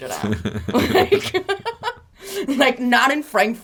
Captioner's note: both laughs